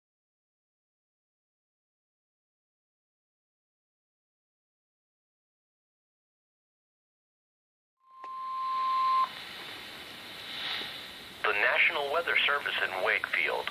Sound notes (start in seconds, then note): 8.1 1050 hz tone